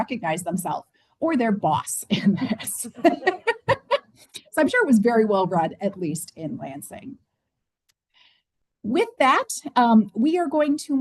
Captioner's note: laughter